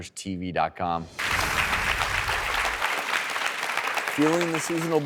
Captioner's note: audience applauding